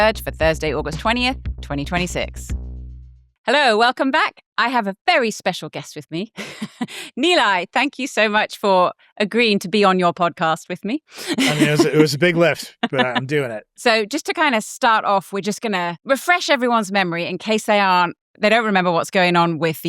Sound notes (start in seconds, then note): 6.4 chuckles